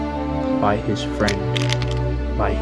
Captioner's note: none